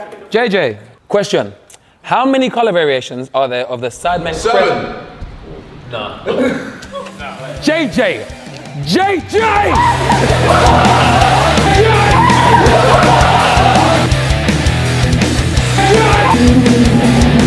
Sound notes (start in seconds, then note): 7.9 rock music fades in; 9.8 rock music swells; 12.1 JJ screams